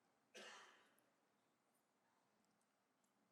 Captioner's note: coughs